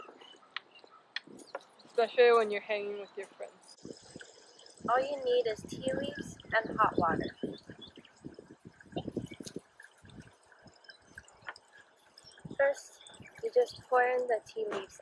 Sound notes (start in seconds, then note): 7.8 wind blowing